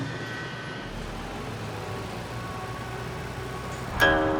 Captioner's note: traffic din